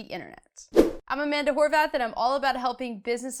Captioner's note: air whooshing